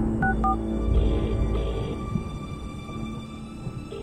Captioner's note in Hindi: लाइन बज रही है